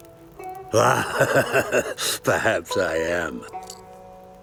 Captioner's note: laughing